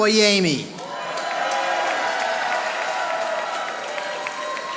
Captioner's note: audience applauding